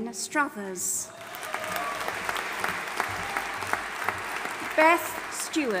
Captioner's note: audience applauding and cheering